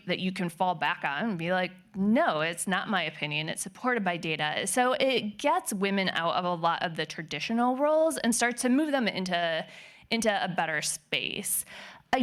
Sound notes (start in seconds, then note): none